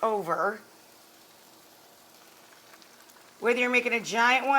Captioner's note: pan sizzling